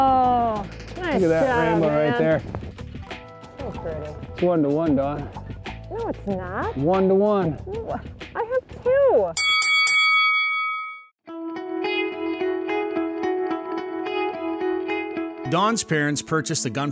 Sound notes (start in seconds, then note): 9.3 bell dings; 11.4 upbeat strumming